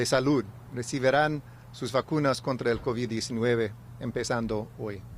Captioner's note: remarks in spanish; speaking spanish